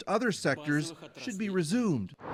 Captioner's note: speaking Foreign Language